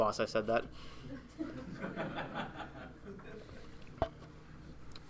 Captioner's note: audience laughing